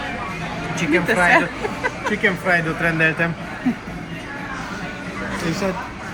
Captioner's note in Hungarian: nevetés